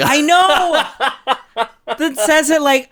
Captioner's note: laughs